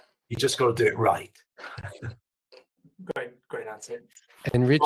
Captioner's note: laughs